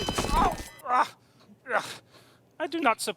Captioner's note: body thuds; objects clattering; Super Grover muttering